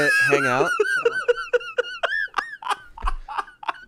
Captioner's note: laughs